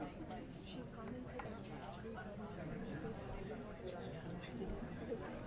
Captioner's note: people chattering